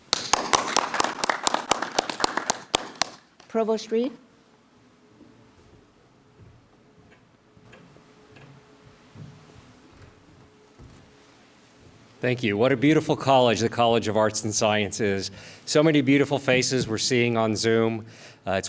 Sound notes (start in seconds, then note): 0.0 clapping